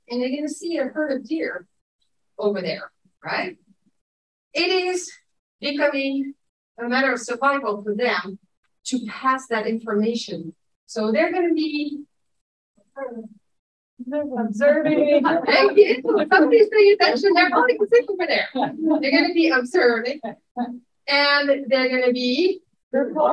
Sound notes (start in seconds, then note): 14.8 audience chuckling